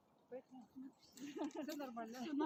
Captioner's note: laughs